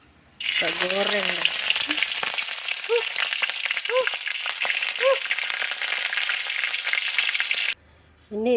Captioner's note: hot oil sound